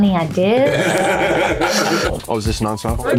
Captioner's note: laughing